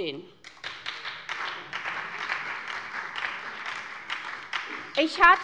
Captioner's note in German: Beifall bei der SPD